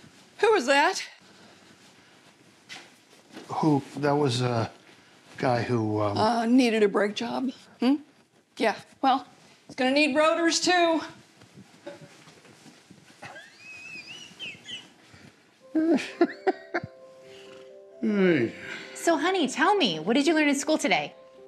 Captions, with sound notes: Who was that? Who? That was a guy who-- Needed a brake job. Yeah. Well, he's going to need rotors, too. [laughter] So honey, tell me, what did you learn in school today?